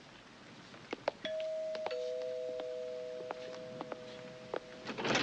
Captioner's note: doorbell rings; door creaks open